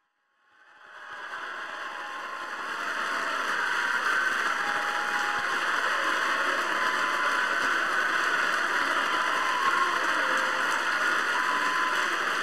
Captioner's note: applause